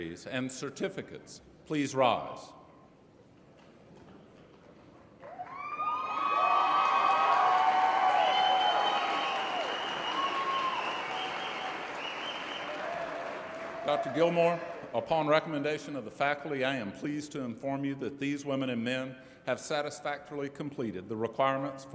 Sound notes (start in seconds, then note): 5.3 cheering